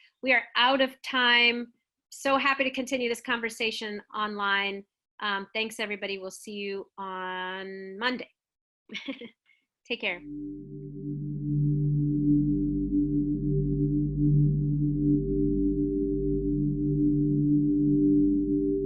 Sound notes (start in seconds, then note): 8.9 chuckles; 10.8 gentle music